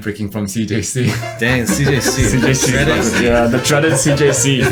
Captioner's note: everyone chuckles